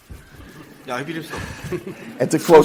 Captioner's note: audience laughs